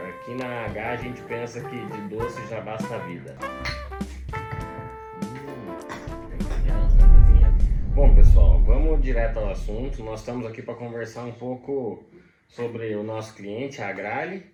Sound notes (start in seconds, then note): 3.6 clink